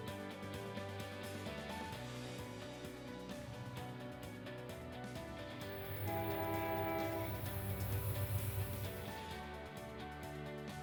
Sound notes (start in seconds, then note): 5.8 horn blowing